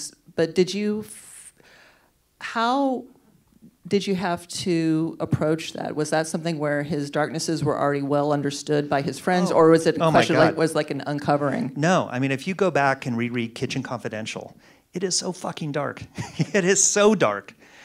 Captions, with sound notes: But did you- how did you have to approach that? Was that something where his darknesses were already well-understood by his friends? Or was, it was like an uncovering? - No, I mean, if you go back and re-read "Kitchen Confidential", it is so fucking dark (laughs). It is so dark.